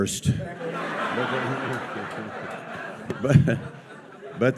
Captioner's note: audience laughs